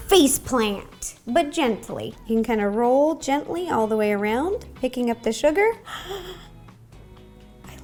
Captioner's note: gasp